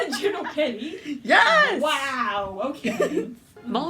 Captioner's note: laughter; laughter